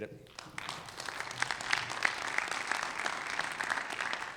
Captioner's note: audience applauding